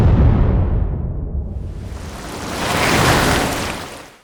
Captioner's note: boom; splattering